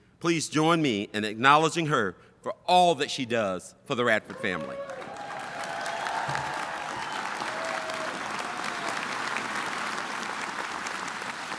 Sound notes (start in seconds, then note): 4.3 audience applauding and cheering